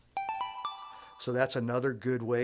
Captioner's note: chime